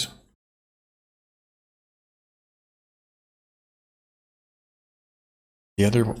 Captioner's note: silence